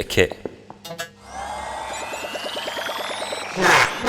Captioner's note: robotic start-up sounds